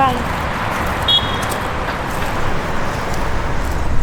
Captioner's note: tourist train honks